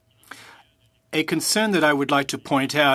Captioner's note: speaking French